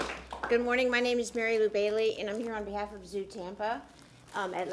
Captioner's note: applause